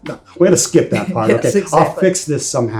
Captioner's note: laughs; chuckles